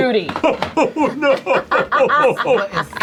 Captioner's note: laughs